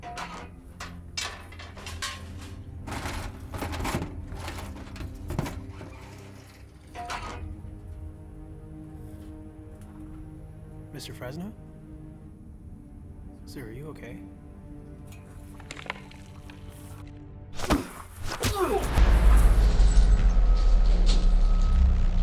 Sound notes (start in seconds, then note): 0.0 clanking; 16.0 rattling; 17.6 thumping; 18.3 grunting